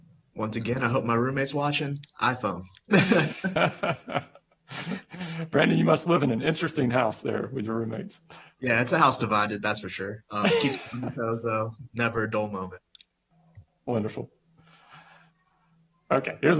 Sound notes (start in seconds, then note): 2.9 laughter